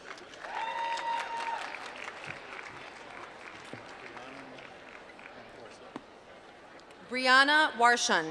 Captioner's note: applause